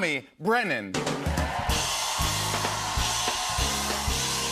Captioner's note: cheers and applause